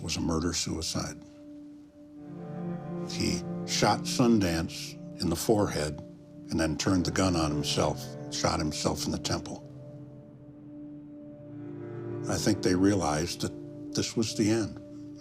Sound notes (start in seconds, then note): none